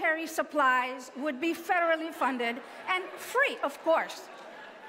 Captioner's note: laughter